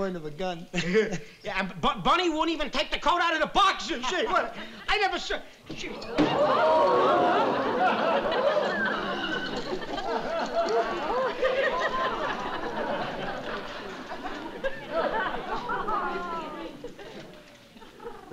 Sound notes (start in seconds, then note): 0.7 chuckles; 6.1 thud